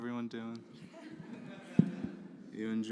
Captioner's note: laughter